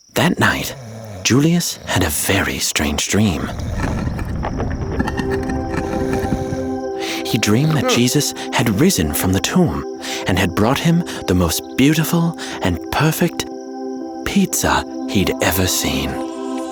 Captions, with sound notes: That night, Julius had a very strange dream. (stone creaking) (Julius snoring) He dreamed that Jesus had risen from the tomb and had brought him the most beautiful and perfect... ...pizza he'd ever seen.